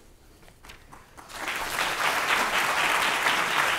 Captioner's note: applause